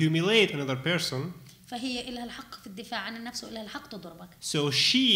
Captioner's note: speaking arabic